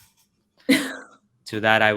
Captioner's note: coughs